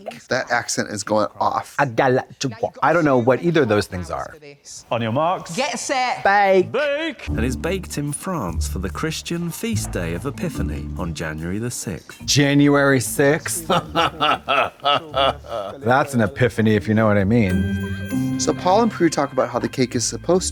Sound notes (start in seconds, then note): 13.7 Katya chuckles; 17.4 festive chime